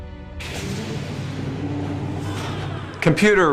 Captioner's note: Holodeck Doors